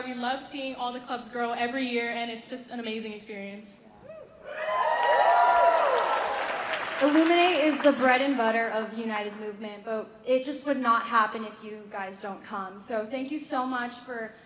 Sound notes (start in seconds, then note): 4.4 cheering; 4.7 applause